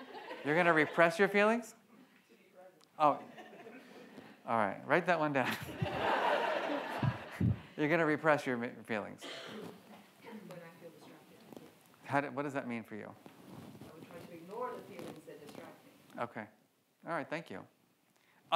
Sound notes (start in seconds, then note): 0.0 audience laughs; 5.6 laughs; 5.6 audience laughs